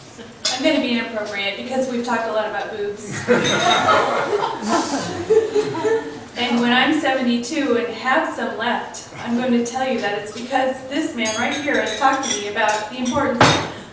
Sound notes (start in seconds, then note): 3.0 laughs